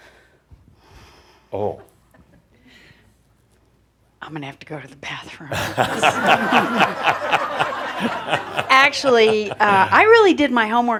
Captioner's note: lots of laughter